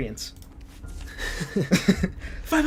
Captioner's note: have a little chuckle time